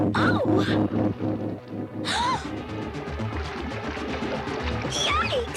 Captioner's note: gasps